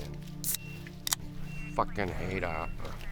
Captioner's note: beer can opening